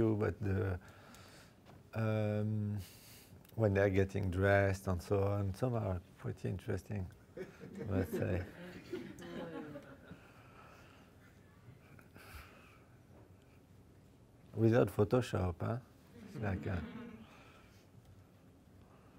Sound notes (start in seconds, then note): 7.4 audience laughing